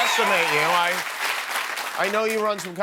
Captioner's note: cheers and applause